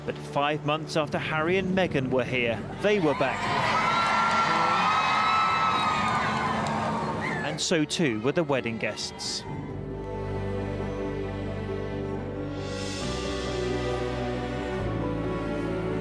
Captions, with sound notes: but five months after Harry and Meghan were here, they were back. (crowd cheering loudly) And so, too, were the wedding guests. (soothing instrumental music continues)